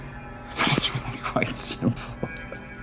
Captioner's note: laughing